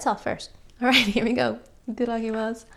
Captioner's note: laughs